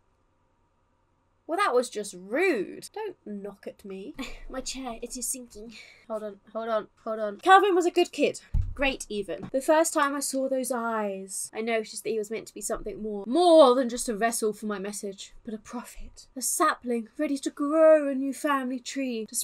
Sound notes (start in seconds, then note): 4.2 sighs